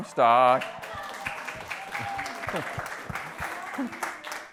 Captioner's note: applause